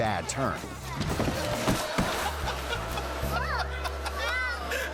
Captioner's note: both thumping; dad laughing